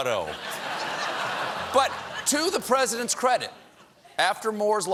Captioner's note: laughter